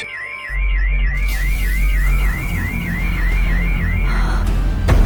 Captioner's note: siren wailing and a long breath is heard